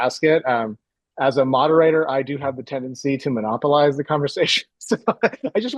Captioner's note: laughs